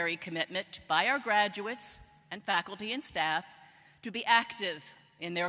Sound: none

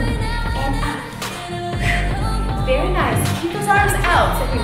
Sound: exhaling

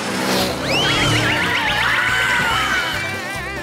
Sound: screaming

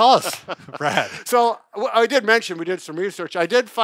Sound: laughs

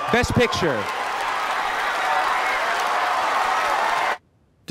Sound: applause

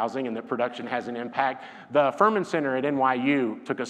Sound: none

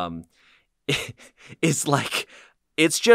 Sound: laughs

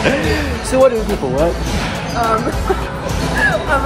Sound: giggles

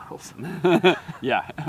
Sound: laughter

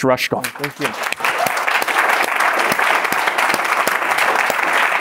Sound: applause

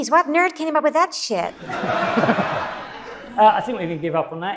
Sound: audience laughs

